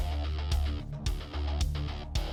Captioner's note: none